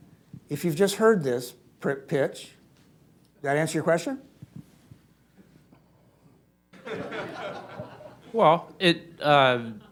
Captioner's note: laughter